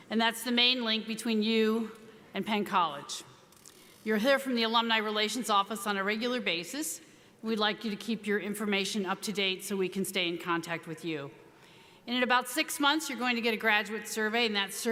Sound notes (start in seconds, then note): none